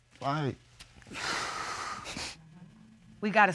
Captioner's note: exhales, sniffles